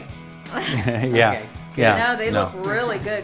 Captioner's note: laughing